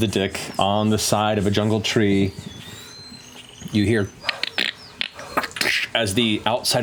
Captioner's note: cracking